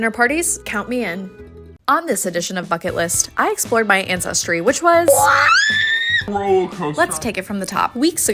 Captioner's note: screams